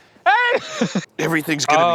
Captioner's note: yells